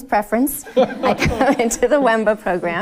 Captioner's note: audience laughing